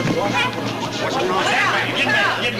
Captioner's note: people chatter